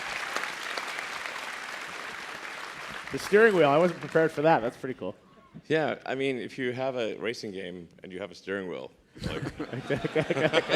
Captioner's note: applause